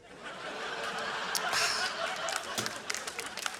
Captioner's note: laughter; applause